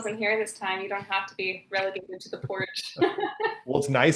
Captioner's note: laughing